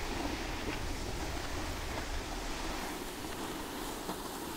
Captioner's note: snow crunching